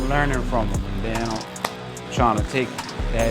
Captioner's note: claps